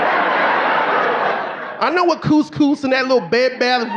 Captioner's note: audience laughing